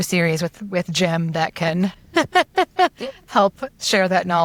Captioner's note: laughs